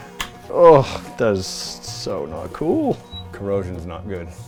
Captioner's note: groans